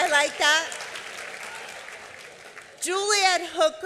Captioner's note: applause